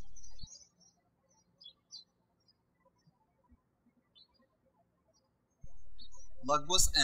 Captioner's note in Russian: птички щебечут